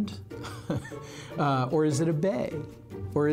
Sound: laughing

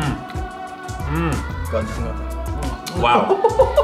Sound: murmurs

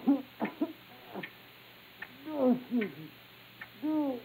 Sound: moaning; faint coughing

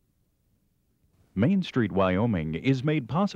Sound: voiceover

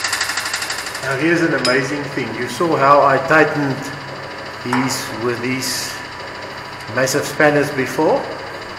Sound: bolts

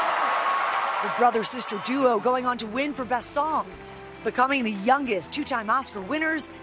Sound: cheers

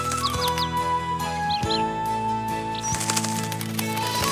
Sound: flute music; chirping; wings flapping

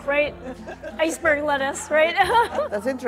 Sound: laughs

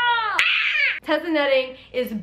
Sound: screeches

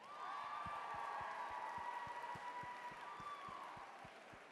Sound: applause

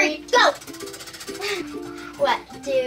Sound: wheel spinning

